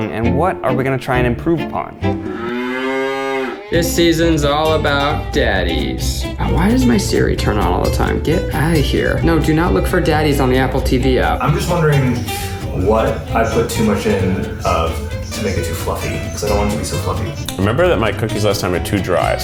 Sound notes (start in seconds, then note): 2.1 cow mooing